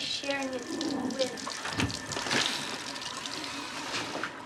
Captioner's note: flushing